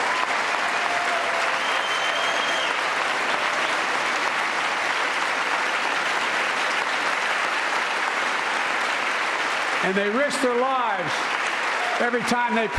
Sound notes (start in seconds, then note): 4.1 applause